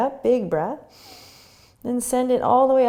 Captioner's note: inhaling